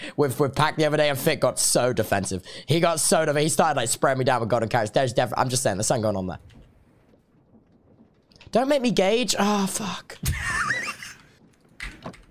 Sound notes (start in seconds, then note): 10.2 laughs